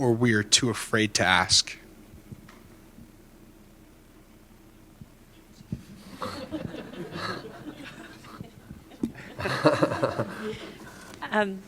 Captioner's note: laughter